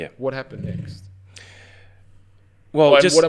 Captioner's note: sighs